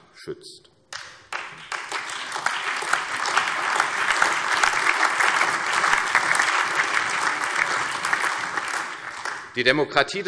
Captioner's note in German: Allgemeiner Beifall